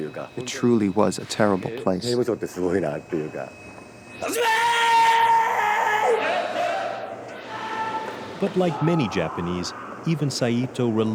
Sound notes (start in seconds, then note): 4.3 shouting in foreign language; 6.4 chanting